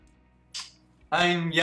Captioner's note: kissing